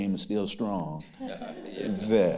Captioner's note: others laughing